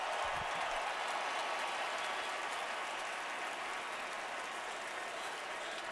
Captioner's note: cheers and applause